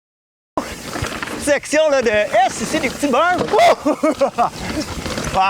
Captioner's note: laughs